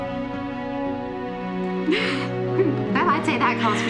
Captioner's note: chuckles